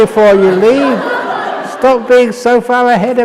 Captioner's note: laughter